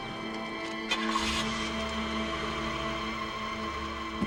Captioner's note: engine revs